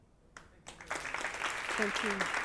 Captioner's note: audience applauding